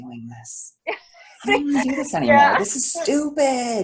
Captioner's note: laughs